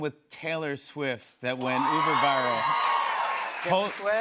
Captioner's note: cheers and applause